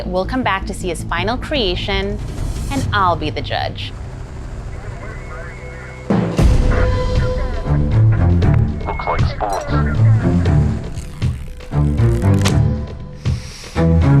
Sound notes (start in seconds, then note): 4.1 helicopter rotor whirring; 6.1 tense music; 9.6 intense music; 10.7 eye cover creaking; 13.2 inhales deeply